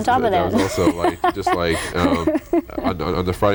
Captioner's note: laughter